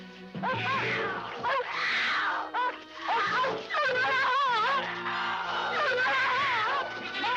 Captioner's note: dogs barking; mountain lion roaring